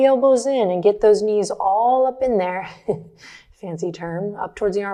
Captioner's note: chuckles